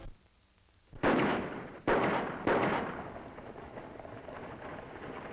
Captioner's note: gun shots